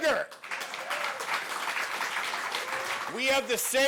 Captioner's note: audience applauds